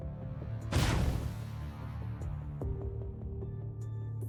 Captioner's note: crash